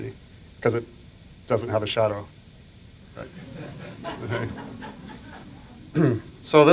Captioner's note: laughter